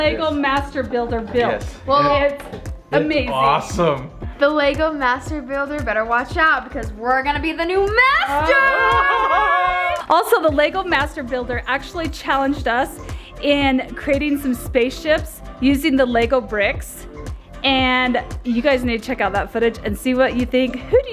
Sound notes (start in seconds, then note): 7.8 laughing and yelling